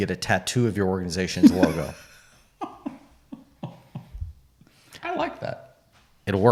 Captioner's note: laughing